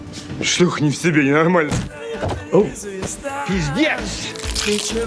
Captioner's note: speaking foreign language